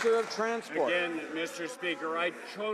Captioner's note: some Applause